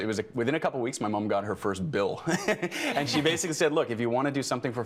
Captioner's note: everyone laughing